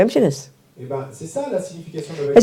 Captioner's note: French